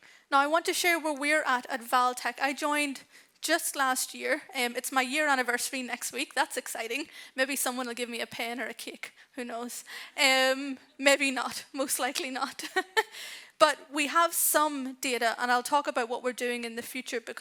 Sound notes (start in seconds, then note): 12.6 chuckles